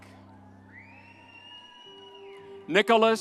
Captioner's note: audience cheers